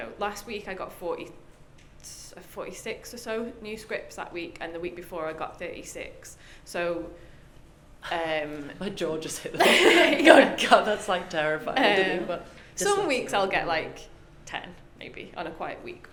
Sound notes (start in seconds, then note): 9.6 both laugh